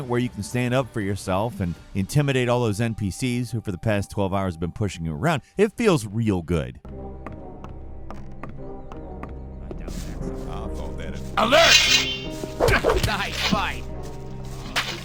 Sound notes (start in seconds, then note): 6.8 light tense music; 7.1 footsteps tapping; 11.4 swords scraping; 12.4 blows thudding; 14.8 sword squelching